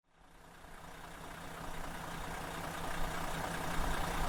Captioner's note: engine humming